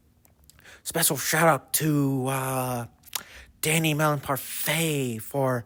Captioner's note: lip smack; lip smack